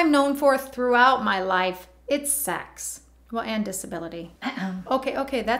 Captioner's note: eh-hem